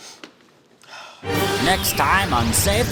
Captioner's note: sigh